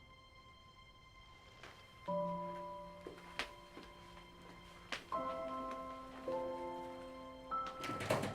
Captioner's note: gentle music continues; feet padding; door clicks open; gentle music continues